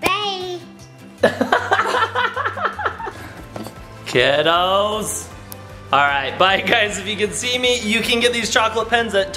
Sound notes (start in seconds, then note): 1.2 laughing